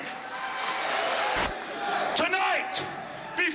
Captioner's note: crowd cheering